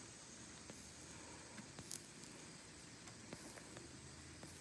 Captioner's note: scratching noises